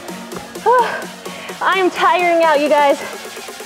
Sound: sharp exhale

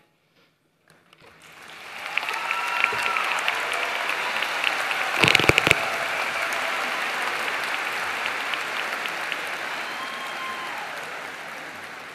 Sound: applause

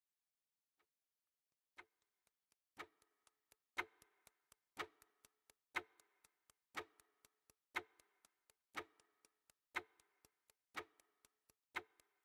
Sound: clock ticking

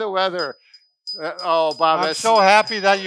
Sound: bell dings

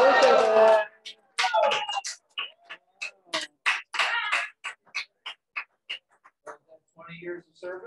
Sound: applause, congratulations sentiments

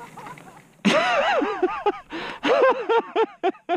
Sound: laughter

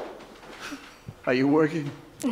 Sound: chuckles

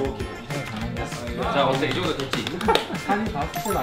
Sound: clap clap clap clap clap

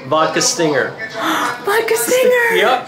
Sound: person gasps

